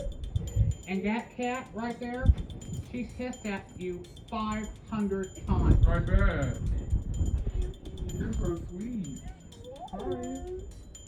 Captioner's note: altered/distorted